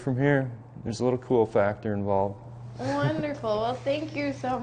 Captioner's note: laughs